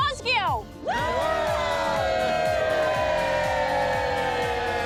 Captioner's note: all cheer